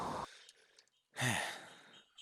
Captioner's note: sigh